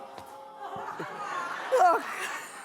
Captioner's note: laughing